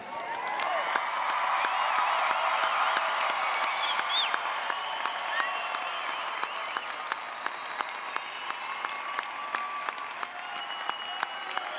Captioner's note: applause and Cheering